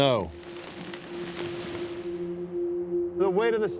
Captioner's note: snow pack crunches down